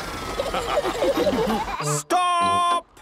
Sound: all laughing

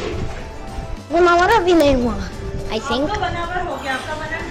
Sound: speaking urdu

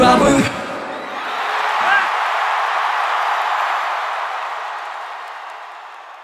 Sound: audience cheering

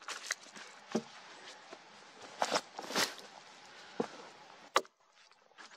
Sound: footsteps; axe knocking on wood, wood cracking, leaves rustling

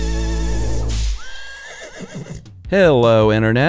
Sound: whip cracking and horse neighing

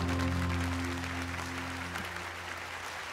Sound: audience applauding

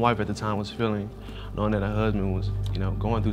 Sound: sniffling

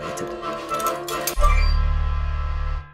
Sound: sound of coin drop

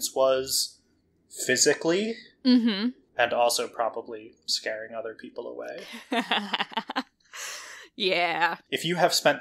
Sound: laughs

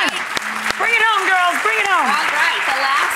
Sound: applause

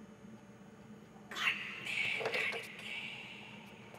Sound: girl whispering

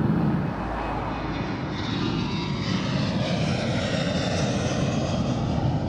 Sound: flight taking off

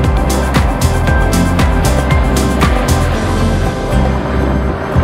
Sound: enchanting music; helicopter roaring

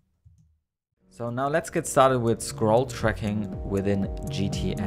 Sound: voiceover; smooth electronic music

